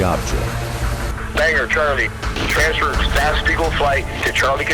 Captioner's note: voiceover